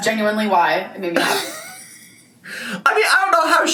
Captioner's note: laughs